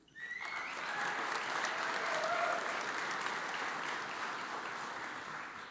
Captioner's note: audience cheers and applauds